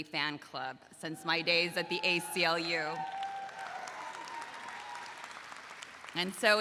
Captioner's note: audience applauds